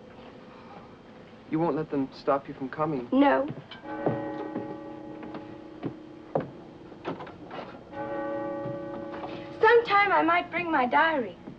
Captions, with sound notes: - You won't let them stop you from coming. - No. (bells tolling) Sometime I might bring my diary.